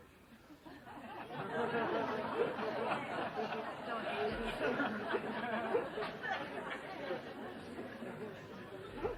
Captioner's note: laughter